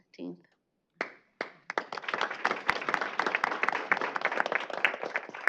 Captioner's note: applauding